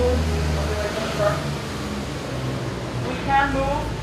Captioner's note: noise of truck passing